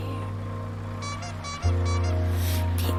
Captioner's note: horn squeaking